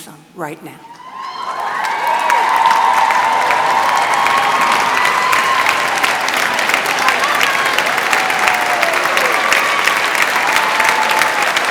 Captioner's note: applause